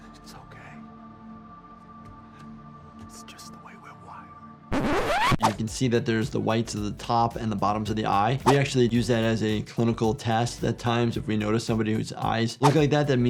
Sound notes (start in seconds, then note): 4.7 disc scratching